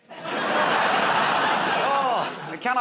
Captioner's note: laughter